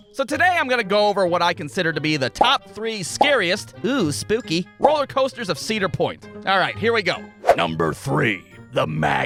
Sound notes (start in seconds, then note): 7.5 ominous voice